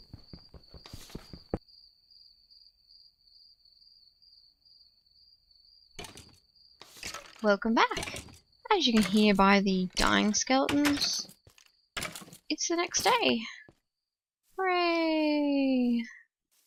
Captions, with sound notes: [crickets chirping] [bones clanging together] Welcome back! As you can hear by the dying skeletons... It's the next day. Hooraaaaaaay.